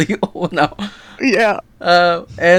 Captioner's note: nervously